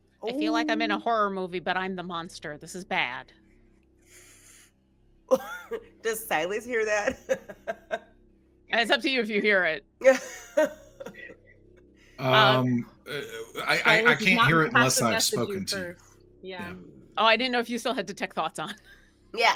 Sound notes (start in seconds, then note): 6.8 laughs